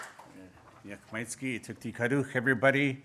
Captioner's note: speaking Native Language